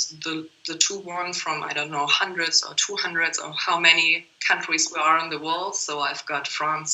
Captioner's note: laughs